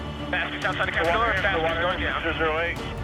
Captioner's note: chatter